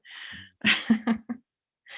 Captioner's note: laughs